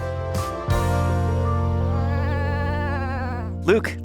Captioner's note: cat meows